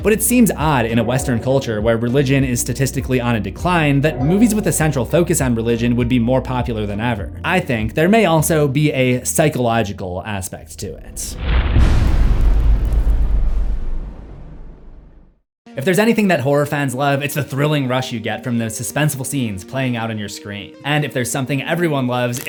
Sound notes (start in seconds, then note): 11.0 cinematic impact